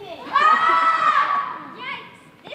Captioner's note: crew screams